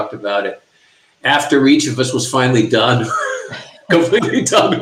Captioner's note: chuckling